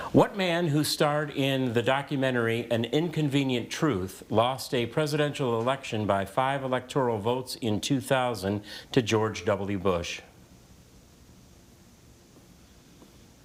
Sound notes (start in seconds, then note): none